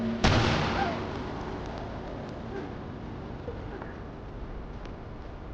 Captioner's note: gun fires; woman gasps